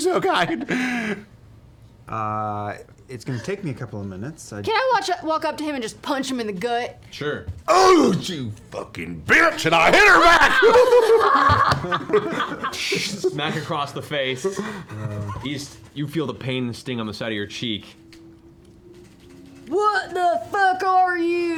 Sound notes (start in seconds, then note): 8.2 grunts; 8.6 low voice